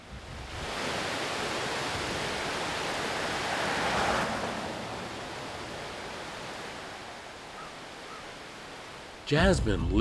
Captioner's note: rushing water